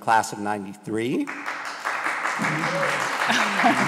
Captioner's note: applause